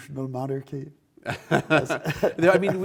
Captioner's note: both laugh